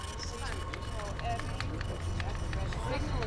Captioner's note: chatter grows louder